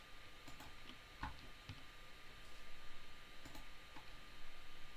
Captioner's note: mouse clicking